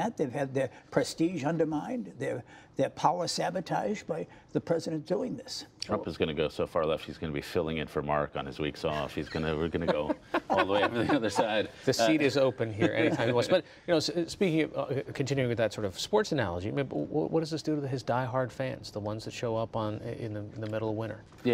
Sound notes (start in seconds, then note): 12.8 laughter